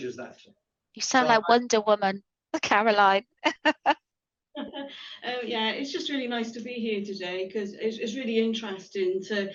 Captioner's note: laughter